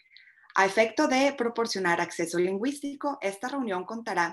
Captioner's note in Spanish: español